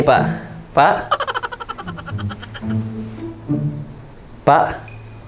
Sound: laughs

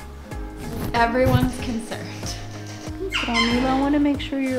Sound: laughs

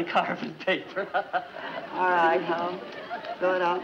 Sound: chuckles

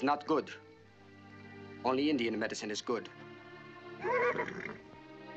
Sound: whinnies

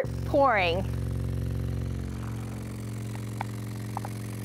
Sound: speakers rumbling

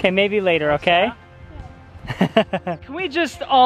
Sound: laughs

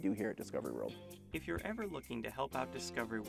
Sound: voiceover

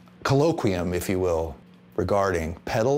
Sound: none

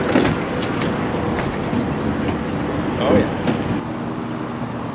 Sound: thunk

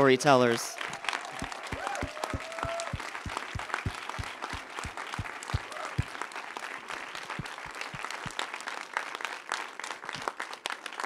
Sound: applause

